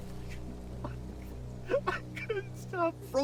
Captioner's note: judge crying